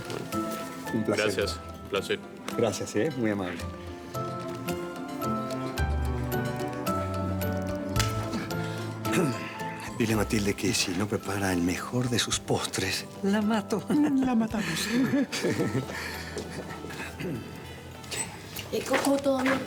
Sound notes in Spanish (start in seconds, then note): 9.0 Susurra; 17.1 Ríe